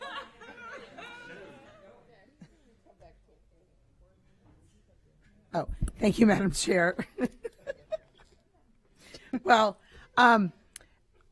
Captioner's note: laughter